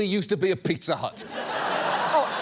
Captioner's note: studio audience laughs